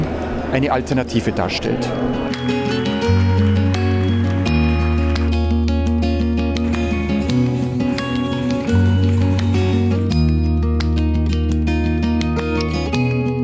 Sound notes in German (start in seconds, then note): 2.3 Klatschen; 6.6 Trommeln